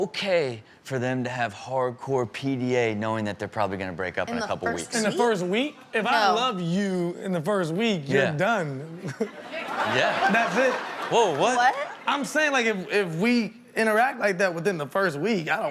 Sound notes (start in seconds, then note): 9.0 audience laughs